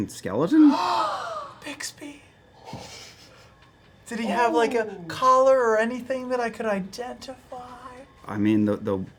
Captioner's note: gasps